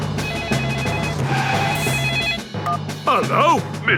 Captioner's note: phone ringing; beeping